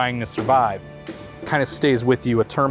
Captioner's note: door bangs